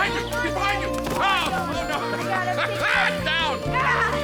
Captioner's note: laughs; all laughing